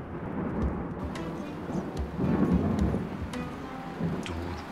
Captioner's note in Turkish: Gök gürleme sesi